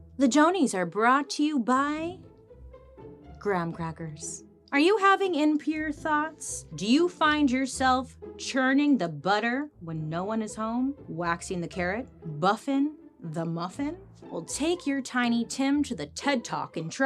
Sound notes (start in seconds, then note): none